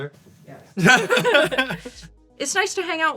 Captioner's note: laughs